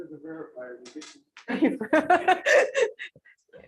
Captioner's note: laughter